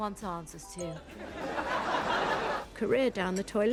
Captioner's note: audience laughing